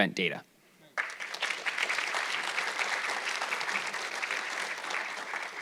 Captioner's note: audience clapping